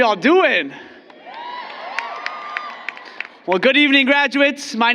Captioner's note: applause